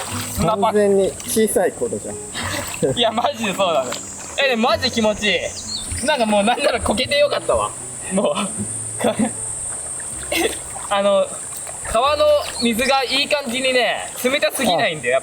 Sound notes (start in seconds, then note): 8.9 laughs